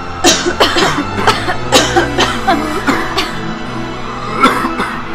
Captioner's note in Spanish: toses